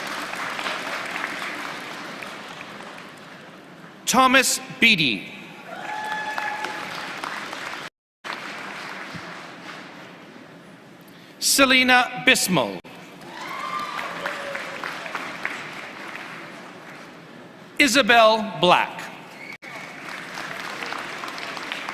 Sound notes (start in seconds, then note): 13.2 applause; 19.6 applause